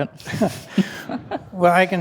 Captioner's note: panelists and attendees laughing